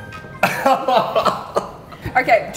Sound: laughing

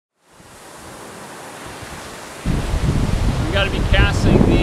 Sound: waves crashing

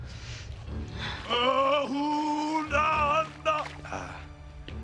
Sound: non-english speech

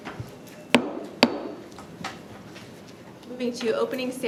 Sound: gavel taps

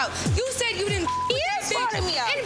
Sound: beep

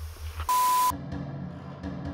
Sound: camera distortion

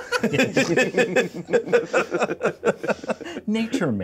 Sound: co-hosts laughing

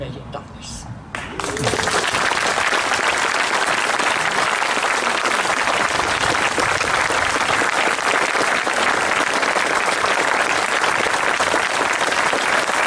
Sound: applause

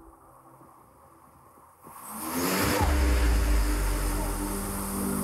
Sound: rotors whirling

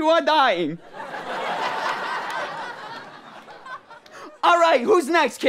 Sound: audience laughter

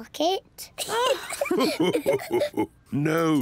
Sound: all laugh

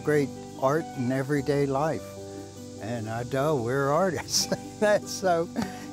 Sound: chuckles

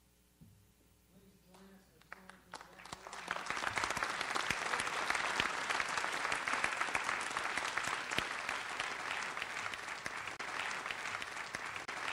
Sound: audience applauds

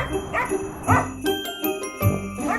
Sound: barking sounds

